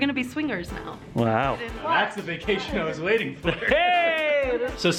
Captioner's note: chuckles